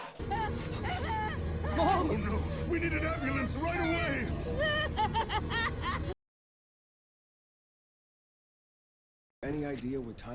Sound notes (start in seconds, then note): 6.8 creepy laugh